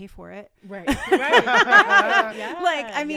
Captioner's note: all laughing